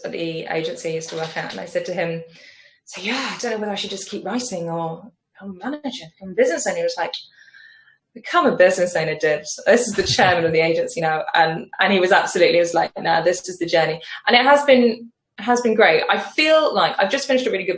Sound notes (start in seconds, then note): 9.9 chuckles